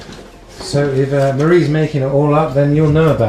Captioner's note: voiceover